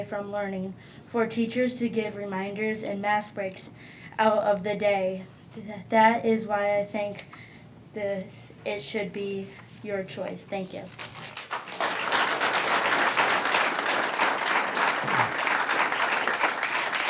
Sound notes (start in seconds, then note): 11.0 audience clapping